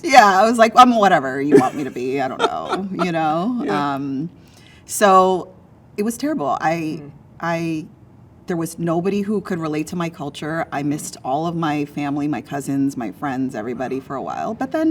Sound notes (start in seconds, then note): 3.0 laughing